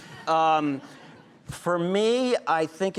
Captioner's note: audience laughing